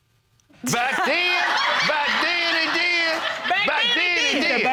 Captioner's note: audience laughing